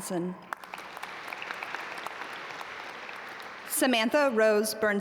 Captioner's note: audience applaud